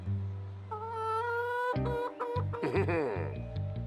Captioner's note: clucking softly; chuckles deviously